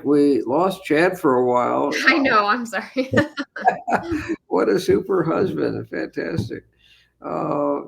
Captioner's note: laughing